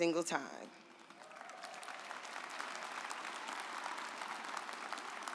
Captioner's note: audience applauds